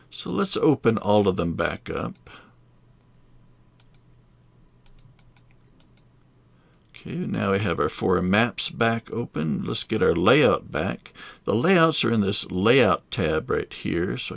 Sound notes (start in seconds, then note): 3.8 mouse clicking